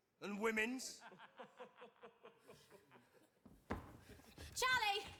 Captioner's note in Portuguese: men laughing